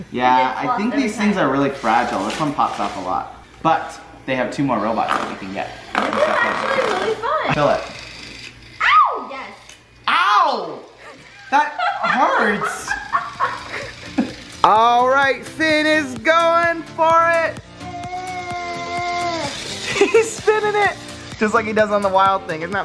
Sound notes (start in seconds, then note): 11.0 laughing